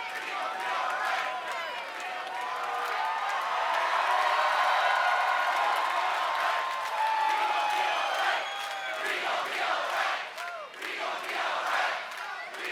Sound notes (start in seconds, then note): 3.5 crowd cheers and claps